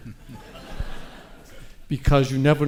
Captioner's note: audience laughs